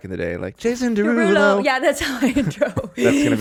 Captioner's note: laughing